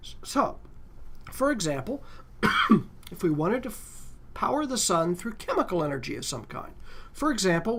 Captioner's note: cough